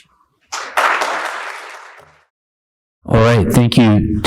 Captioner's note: attendees applauding